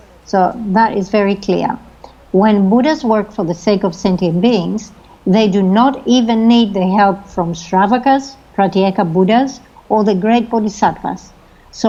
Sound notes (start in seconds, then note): 7.9 speaking foreign language